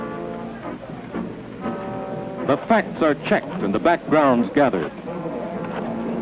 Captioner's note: clicking and clacking of typewriters